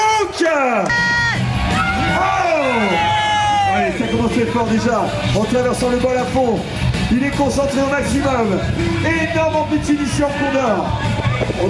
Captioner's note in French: Cris, musique, et parole du commentateur